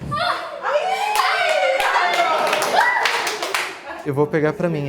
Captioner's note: clapping